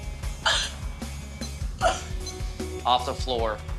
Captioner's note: coughing